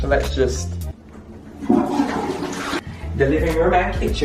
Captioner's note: toilet flushing